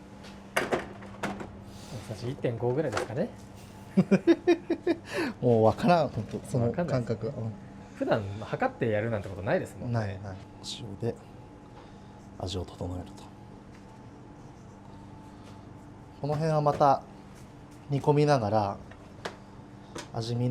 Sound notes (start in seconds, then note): 4.0 laughs